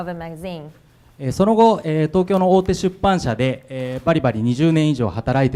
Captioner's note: speaking foreign language